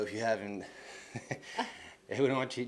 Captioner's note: laughs